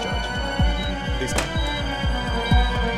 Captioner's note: Door opens